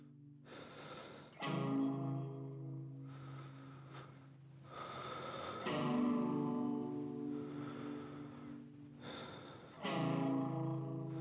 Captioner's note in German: breathing